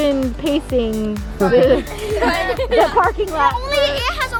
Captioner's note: everybody laughing